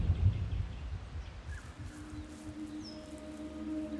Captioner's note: birds chirping